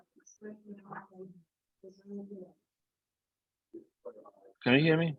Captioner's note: group muffled chattering